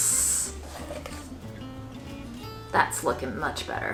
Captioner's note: spoon scrapes